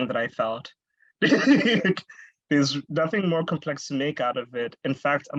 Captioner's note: laughs